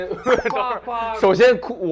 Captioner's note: holding back laughter